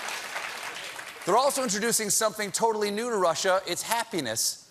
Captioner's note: applause